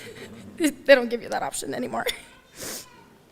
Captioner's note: laughter